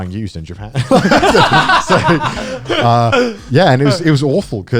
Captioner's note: guys laughing